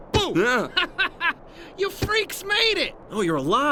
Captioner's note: laughs